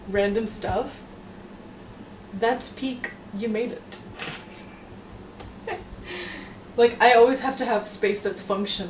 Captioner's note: laughs